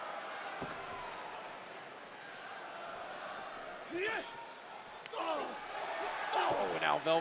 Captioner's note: crowd cheering